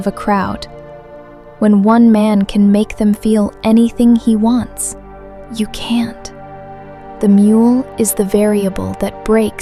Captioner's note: whispers